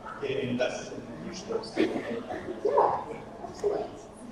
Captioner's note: coughing drowning out attendee